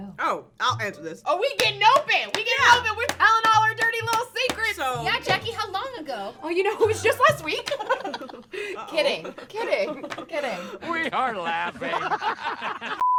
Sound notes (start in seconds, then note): 7.4 girls laugh; 12.4 laughter